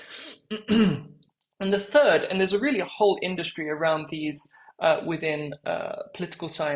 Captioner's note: cough